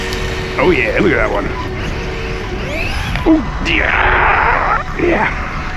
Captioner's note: electric motor screaming